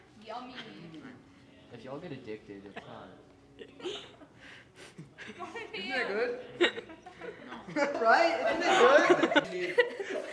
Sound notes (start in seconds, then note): 2.8 laughing; 6.6 laughter in the surrounding area; 6.6 laughing; 6.6 still laughing; 8.5 still laughing; 8.5 laughing